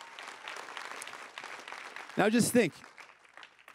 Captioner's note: crowd cheering and applauding